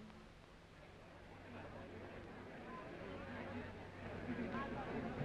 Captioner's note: crowd murmuring